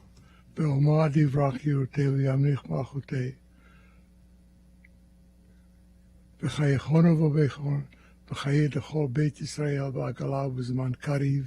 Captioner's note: speaking hebrew